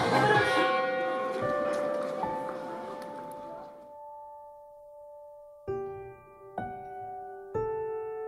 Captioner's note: church bell followed by gentle piano music